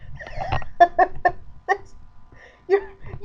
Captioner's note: laughter